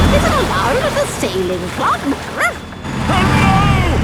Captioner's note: barks